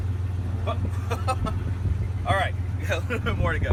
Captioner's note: laughs